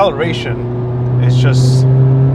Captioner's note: revs engine